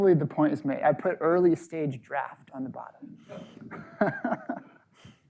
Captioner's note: laughs